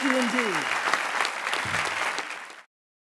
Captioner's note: applause and cheering